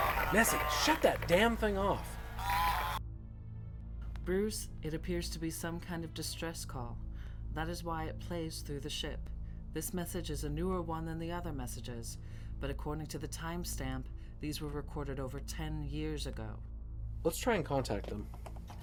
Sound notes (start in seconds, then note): 4.1 computer voice